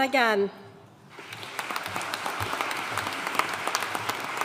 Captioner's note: audience applauding